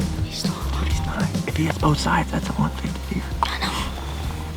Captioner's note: whispering